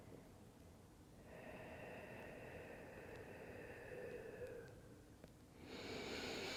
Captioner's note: breathing